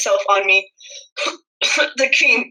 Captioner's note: coughing